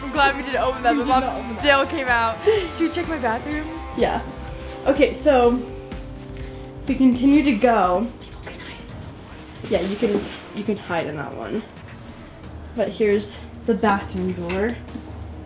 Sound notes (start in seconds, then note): 8.6 whispering